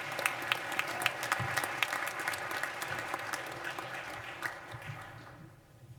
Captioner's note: applause